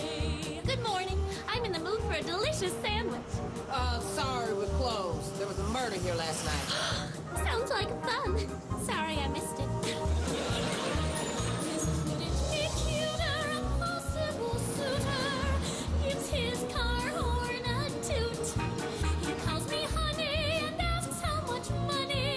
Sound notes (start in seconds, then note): 6.6 gasps